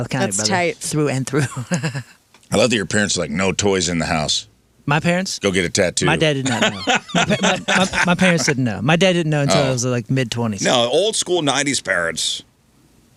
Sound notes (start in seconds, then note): 6.3 laughing